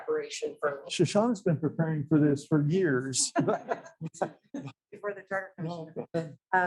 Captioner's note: laughing